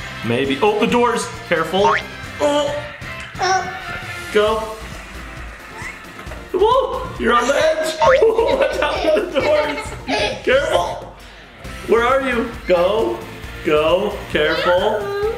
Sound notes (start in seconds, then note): 1.9 boinking; 7.2 laughing